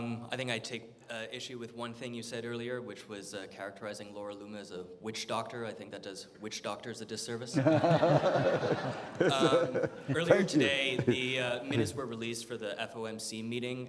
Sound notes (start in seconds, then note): 7.5 audience laughing